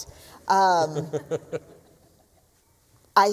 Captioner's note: laughs